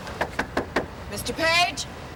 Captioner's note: rapid knocking